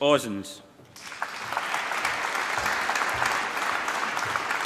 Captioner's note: applause